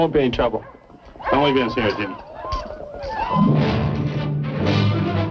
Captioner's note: speaking spanish